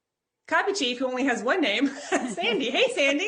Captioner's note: chuckles